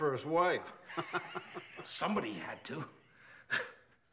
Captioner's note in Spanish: risas